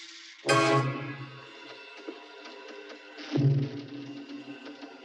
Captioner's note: door creaking